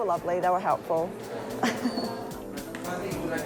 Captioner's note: chuckles